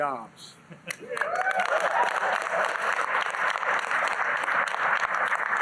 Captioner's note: applause